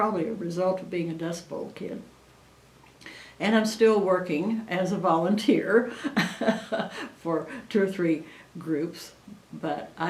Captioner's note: laughs